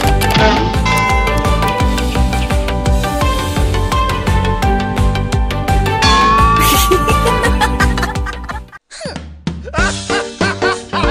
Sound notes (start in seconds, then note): 0.3 hit; 6.6 laughter